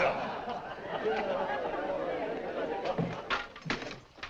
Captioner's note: laughter, comment; laughter